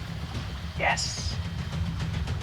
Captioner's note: quietly